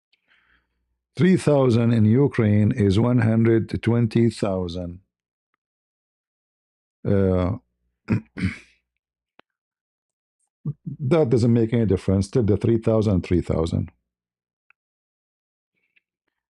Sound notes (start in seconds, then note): 8.0 berdehem